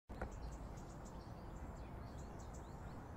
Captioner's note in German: Leises Vogelgezwitscher und Fahrgeräusche